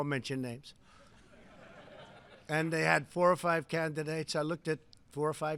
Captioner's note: laughter